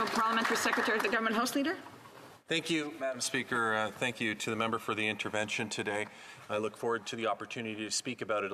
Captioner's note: some applause